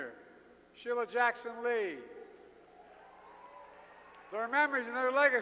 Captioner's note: applause